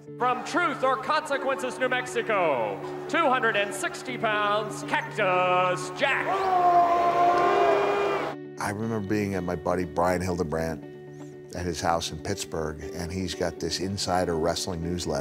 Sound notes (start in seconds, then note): 6.4 yells